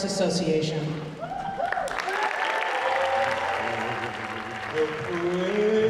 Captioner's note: audience cheering; audience applauding